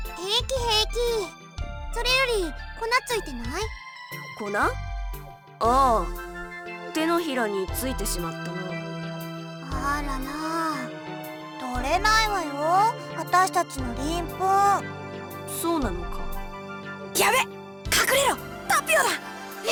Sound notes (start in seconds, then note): 17.3 whisper